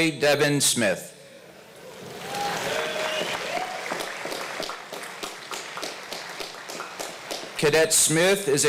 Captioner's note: applause